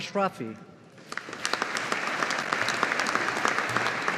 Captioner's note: audience applauding